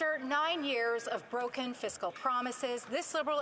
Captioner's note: applause